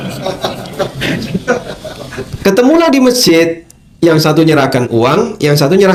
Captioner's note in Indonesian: tertawa